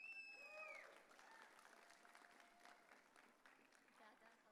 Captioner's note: audience cheering